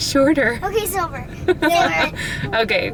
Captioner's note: laughing